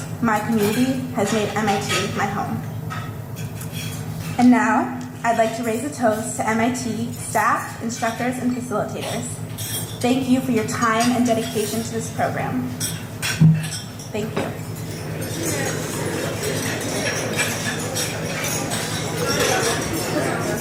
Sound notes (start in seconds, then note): 16.6 glasses press together